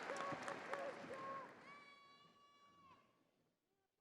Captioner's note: crowd cheers